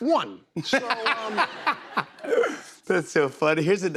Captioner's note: laughter